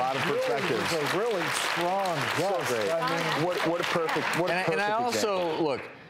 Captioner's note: audience applauds